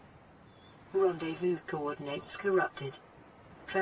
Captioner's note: computer Voice